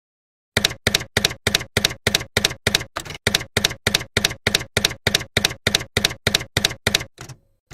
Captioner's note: typewriter keys clacking